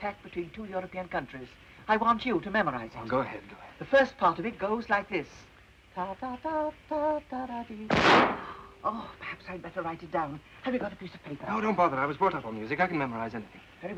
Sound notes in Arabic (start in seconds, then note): 6.0 تغني أغنية; 7.9 طلق ناري